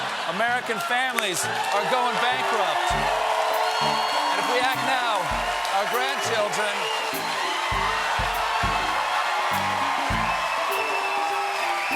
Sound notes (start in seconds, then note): 4.1 cheers and applause